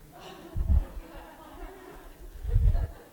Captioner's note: laughter